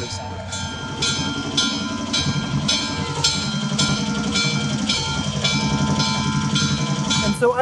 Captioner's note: various train noises